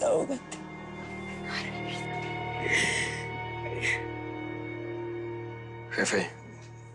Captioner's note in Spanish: Sollozos